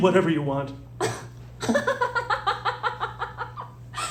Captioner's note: laughs